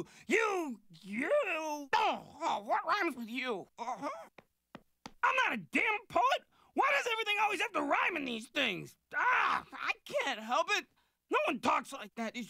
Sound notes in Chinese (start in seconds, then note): none